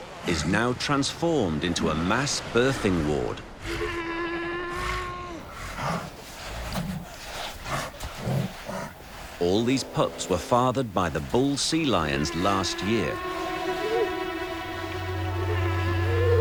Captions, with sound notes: is now transformed into a mass birthing ward. (sea lions groaning) All these pups were fathered by the bull sea lions last year. (dramatic music)